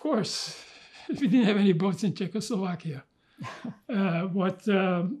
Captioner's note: laughing